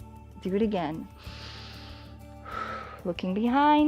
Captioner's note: inhales and exhales